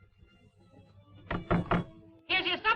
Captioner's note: knocking on door